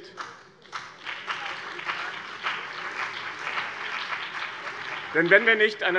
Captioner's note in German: Beifall BÜNDNIS 90/DIE GRÜNEN, vereinzelt CDU und SPD